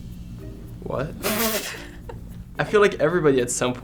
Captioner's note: both laugh